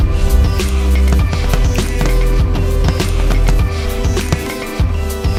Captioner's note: fireworks exploding